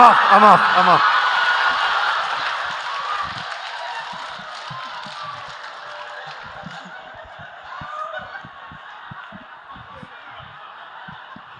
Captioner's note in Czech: Smích